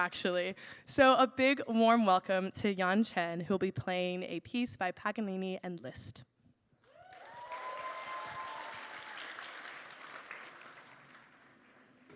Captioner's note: applause